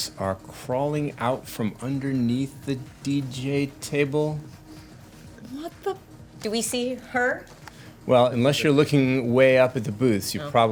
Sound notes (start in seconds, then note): none